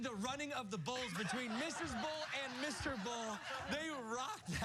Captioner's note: laughter